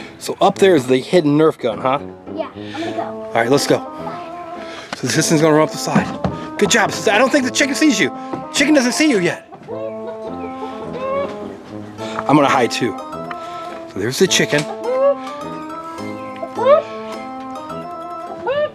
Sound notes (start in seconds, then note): 9.4 clucks; 16.6 clucks